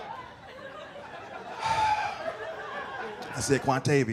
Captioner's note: sighs